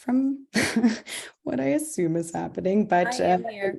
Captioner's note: chuckles